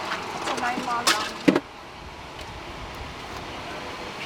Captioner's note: crew chattering